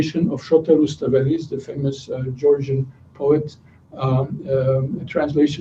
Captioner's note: non-english speech